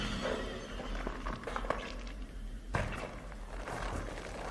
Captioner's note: squelching